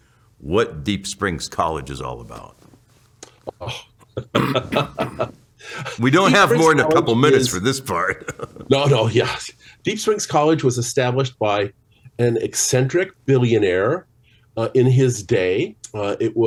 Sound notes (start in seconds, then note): 3.2 smacks lips; 4.1 chuckles; 8.2 chuckles